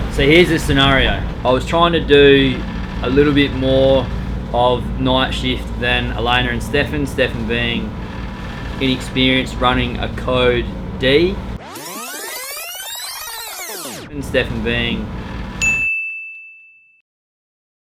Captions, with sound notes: So here's the scenario, I was trying to do a little bit more of night shift than Elayna and Stefan. Stefan being inexperienced running a Code D. (audio scratching) And Stefan being. (dinging)